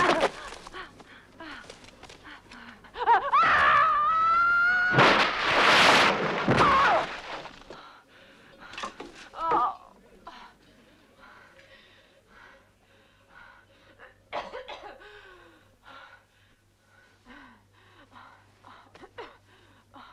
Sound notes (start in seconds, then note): 0.1 Hundra grunts; 3.3 Hundra screaming; 6.6 Hundra grunts; 9.5 Hundra groaning; 14.3 Hundra coughing